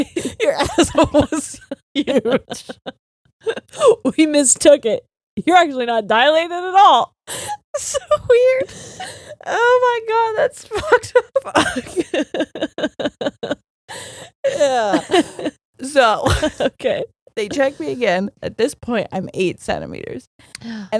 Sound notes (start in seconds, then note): 7.7 both laughing; 11.2 faintly speaking